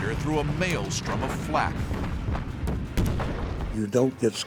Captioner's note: explosions